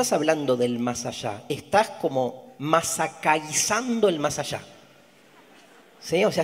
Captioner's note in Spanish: audience laughs